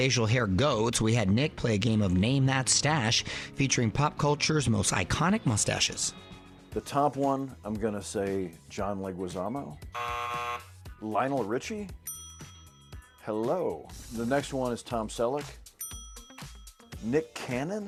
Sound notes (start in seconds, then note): 9.9 buzzer blares; 12.0 ding